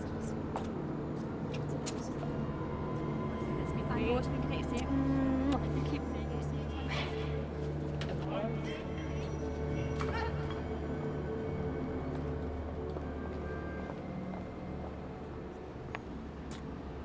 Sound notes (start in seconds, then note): 6.2 ladies muttering; 8.8 yelling; 12.2 tense music